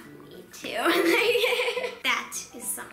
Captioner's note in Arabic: يضحك